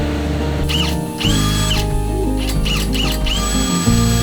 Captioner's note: drilling